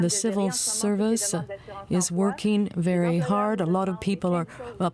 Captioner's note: speaking French